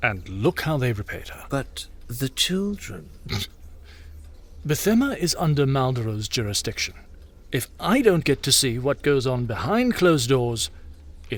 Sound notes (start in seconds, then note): 1.9 sarcastic; 3.3 King Starbringer Chortles